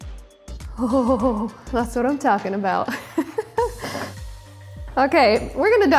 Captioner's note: laughs